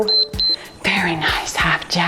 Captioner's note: timer beeps